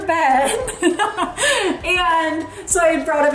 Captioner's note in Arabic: تضحك